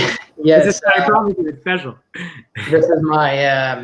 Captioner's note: sound distorts